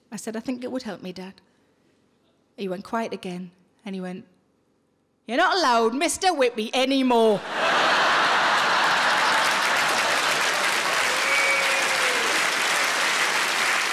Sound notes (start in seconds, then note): 7.4 laughing; 9.7 audience applauding